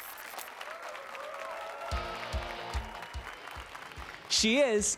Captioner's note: applause and cheers